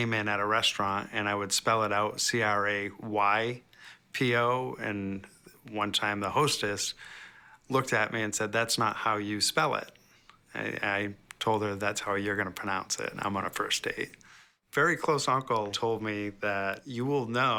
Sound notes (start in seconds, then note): none